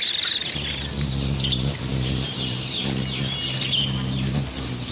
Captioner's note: bird buzzing